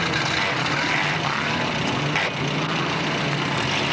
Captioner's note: engine doesn't restart